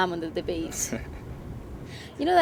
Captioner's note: Dillon laughing